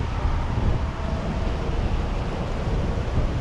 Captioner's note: none